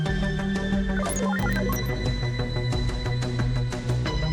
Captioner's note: computer beeps